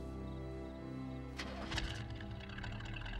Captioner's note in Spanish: motor enciende